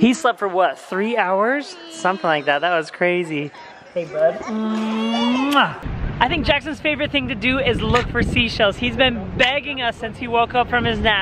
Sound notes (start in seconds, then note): 4.7 smooch